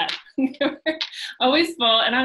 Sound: laughs

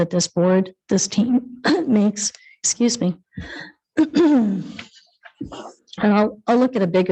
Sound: clears throat

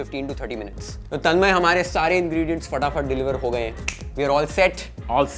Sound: clicks tongue

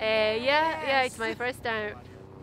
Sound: laughing

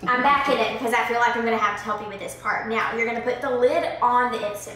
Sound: none

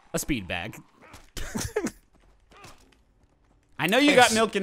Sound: laughing

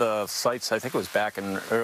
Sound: nats rain

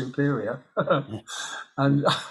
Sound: he laughs

